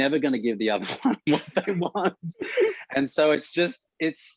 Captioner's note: Murray laughs